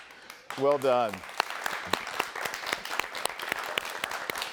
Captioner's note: attendees clapping